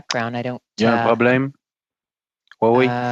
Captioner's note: speaking FRENCH